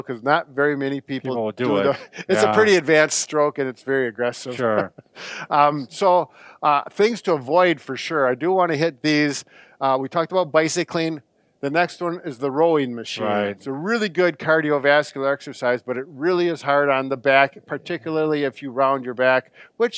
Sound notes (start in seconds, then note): 4.5 chuckles